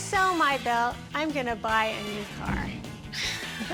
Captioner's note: laughs